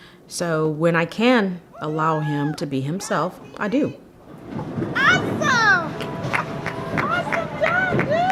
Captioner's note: cheering